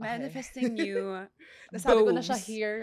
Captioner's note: laughs